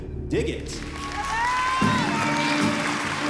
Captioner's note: cheering